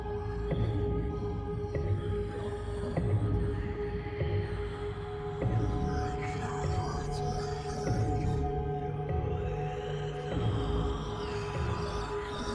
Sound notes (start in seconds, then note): 6.3 creepy whispering continues